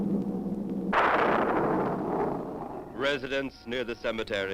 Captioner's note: engine humming; lightning crashes